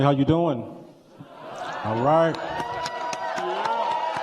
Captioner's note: cheers and applause